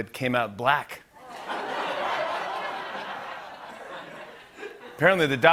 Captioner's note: laughter